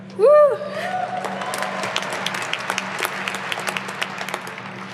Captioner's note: audience applauding